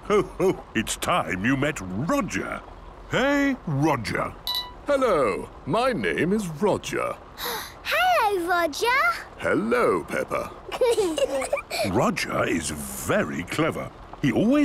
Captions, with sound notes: - Ho, ho! It's time you met Roger. Hey, Roger! - Hello. My name is Roger. - (gasps) Hello, Roger! - Hello, Peppa. - (children giggling) - Roger is very clever.